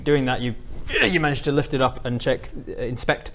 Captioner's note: ugh